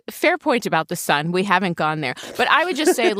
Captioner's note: laughs